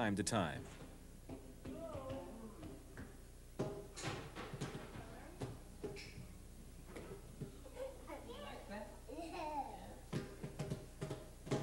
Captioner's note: people talking